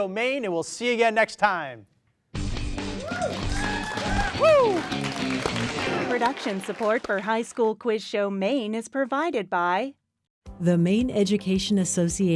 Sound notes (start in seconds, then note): 2.8 people cheering